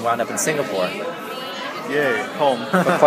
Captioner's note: laughs